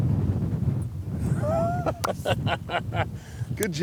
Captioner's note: laughing